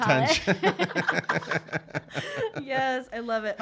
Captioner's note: laughing